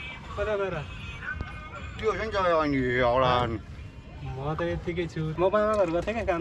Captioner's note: people speaking